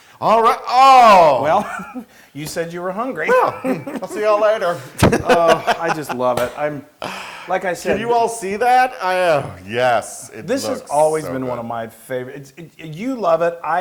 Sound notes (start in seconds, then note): 3.2 laugh